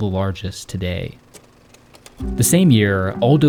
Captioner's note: projector clacking